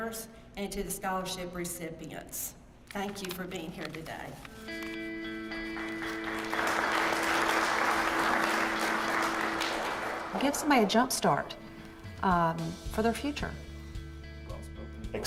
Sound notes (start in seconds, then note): 5.5 applause